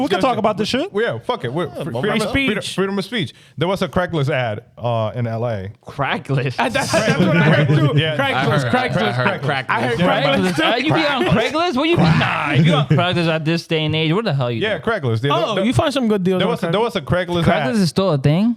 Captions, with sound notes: We can talk about this shit. Yeah, fuck it. Freedom of speech. There was a crack list ad in LA. Crack list. (Laughing) Crack list, crack list. I heard crack list. I heard crack list. Are you being on crack list? What are you, nah, you got crack list at this day and age. What the hell are you doing? Yeah, crack list. There was a crack list ad. Crack list is still a thing.